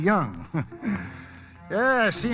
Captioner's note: chuckles